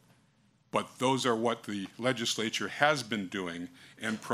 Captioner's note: none